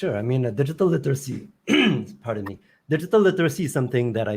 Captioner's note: clears throat